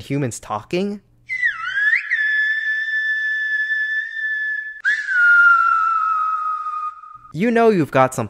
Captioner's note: whistling